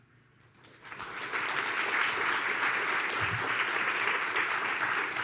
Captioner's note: audience applauds